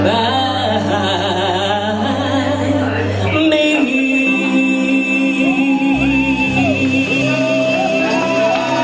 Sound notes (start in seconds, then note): 5.4 cheering